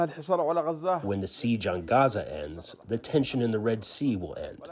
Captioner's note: through translator